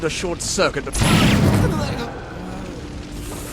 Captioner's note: bang!